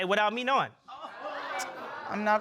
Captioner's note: audience gasps